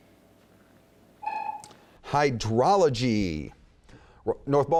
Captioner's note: dinging